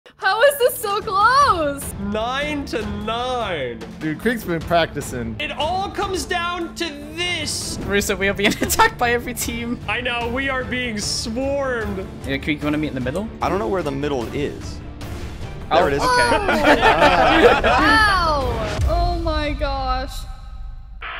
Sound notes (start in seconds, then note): 16.0 all laugh